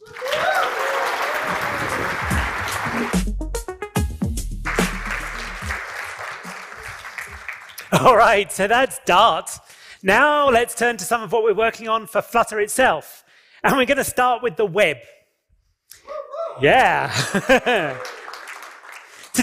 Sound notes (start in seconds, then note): 16.6 cheering and applause